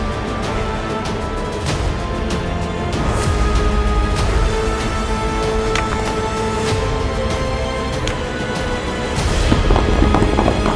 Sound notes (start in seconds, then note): 5.6 clattering; 8.7 crackling